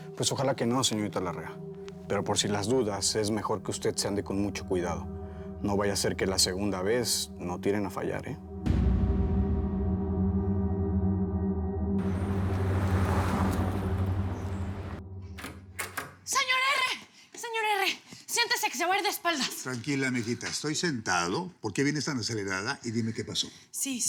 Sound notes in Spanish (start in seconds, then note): 15.2 sonido al abrir la puerta